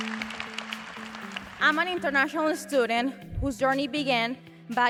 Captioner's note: applause